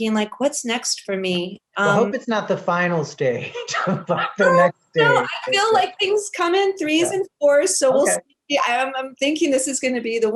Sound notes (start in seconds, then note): 3.5 laughs